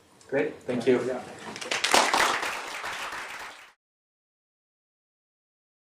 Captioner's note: applause